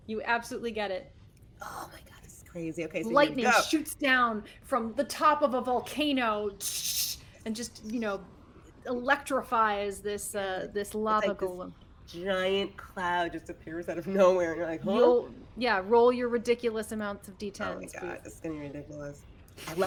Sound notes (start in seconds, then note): 6.2 imitates lightning